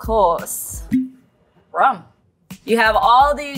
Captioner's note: bottle cap popping